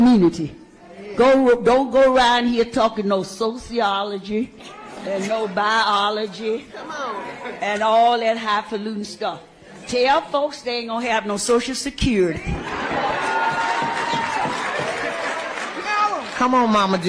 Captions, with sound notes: Go-- don't go around here talking no sociology and no biology and all that highfalutin' stuff. Tell folks they ain't gonna have no Social Security. [CHEERING] Come on, Mama Dukes. Come on, Mama Dukes.